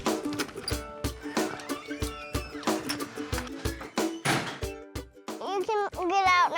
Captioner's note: door opens, closes